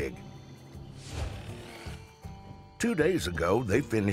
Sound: buzzing

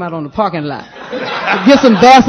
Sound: laughter

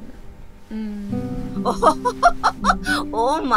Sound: laughing

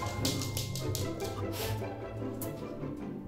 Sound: sniff

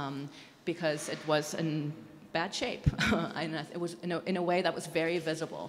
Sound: chuckles

